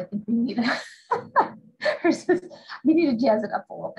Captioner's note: laughs